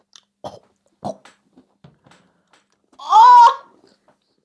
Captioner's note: almost vomits